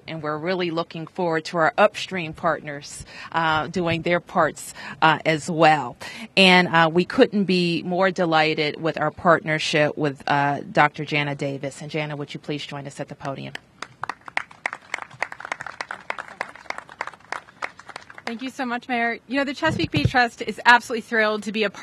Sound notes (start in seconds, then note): 15.8 applause